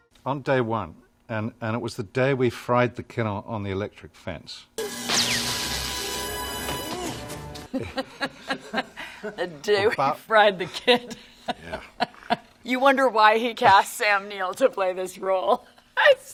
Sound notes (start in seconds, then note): 4.8 sparks sizzling; 4.8 dramatic music; 7.6 group laughs; 10.5 laughs